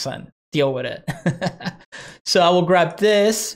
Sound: chuckles

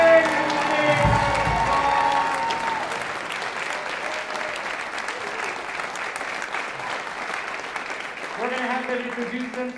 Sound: applause

